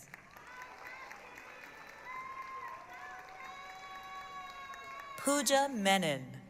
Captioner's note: applause, cheering